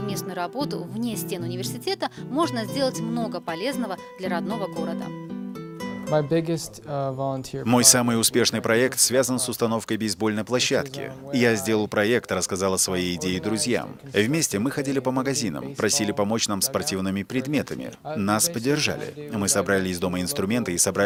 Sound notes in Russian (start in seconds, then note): 5.5 английская речь